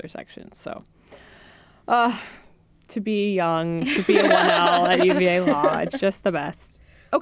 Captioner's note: sigh